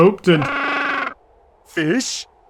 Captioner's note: angry squawk